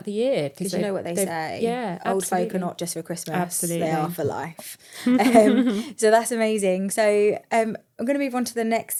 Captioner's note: laughs